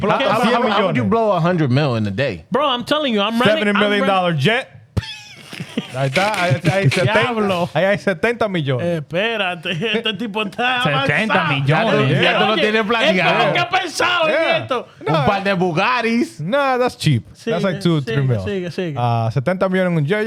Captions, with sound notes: How would you blow 100 million in a day? Bro, I'm telling you, I'm running-- $70 million jet. (Laughing) (Speaking In Foreign Language) No, that's cheap. That's like two or three mil. (Speaking In Foreign Language)